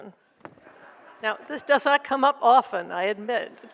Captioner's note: audience laughs